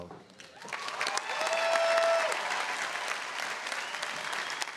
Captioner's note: audience cheering